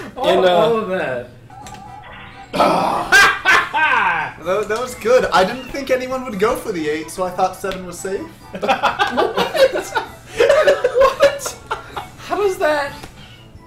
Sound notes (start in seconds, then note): 2.4 groans; 8.5 laughs